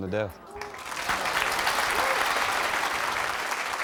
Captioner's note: applause